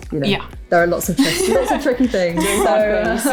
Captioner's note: laughs